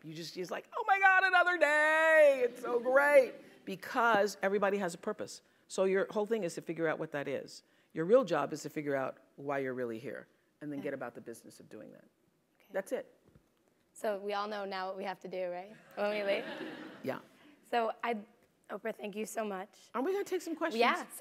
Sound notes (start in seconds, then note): 16.0 laugh